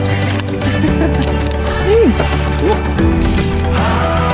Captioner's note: laughs